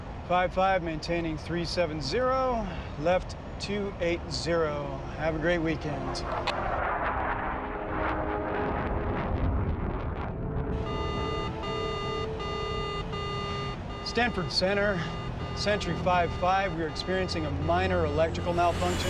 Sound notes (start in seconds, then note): 10.8 machine beeping